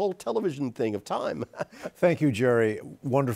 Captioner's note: chuckles